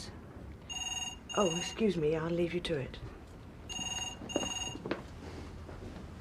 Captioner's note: phone ringing